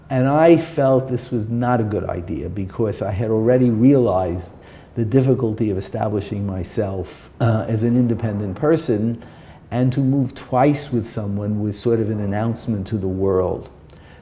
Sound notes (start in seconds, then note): none